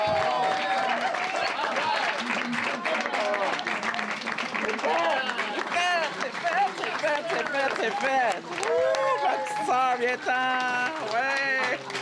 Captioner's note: cheers and applause